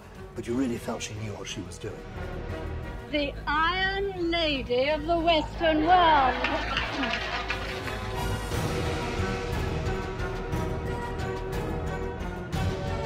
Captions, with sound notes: but you really felt she knew what she was doing. - The Iron Lady of the Western World. (audience claps) (dramatic music)